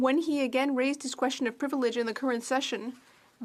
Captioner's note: speaking French